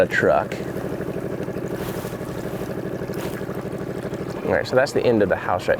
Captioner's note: boat motor idling